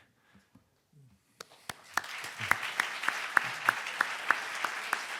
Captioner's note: audience applauding